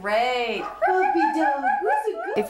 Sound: women coo

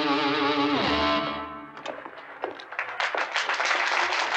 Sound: applause

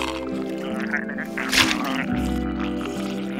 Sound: gurgling

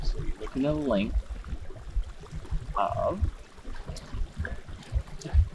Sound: water bubbling

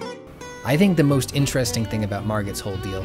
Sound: none

